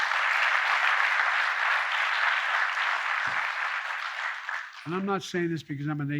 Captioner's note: applause